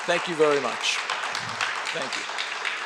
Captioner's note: audience applauds